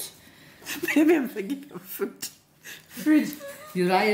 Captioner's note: laughing